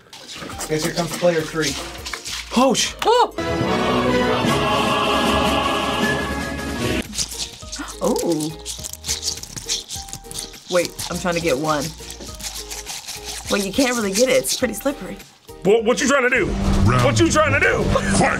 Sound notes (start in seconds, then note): 3.5 triumphant music; 7.0 toy squelches; 7.2 gasps